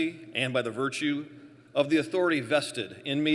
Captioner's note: none